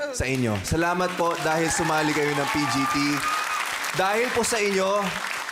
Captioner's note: applause, cheering